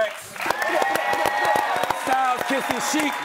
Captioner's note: audience shouting